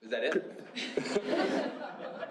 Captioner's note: laughter